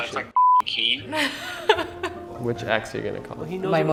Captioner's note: beep